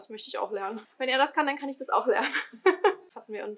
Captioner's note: laughter